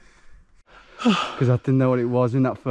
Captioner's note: gasping